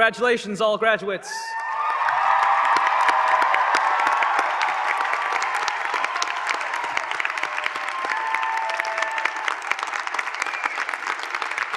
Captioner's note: applause